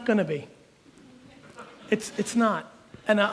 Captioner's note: audience chuckles